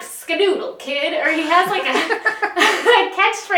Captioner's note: laughs; still laughing off-camera